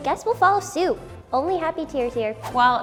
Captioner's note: swooshing